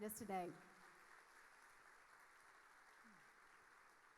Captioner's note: audience applauding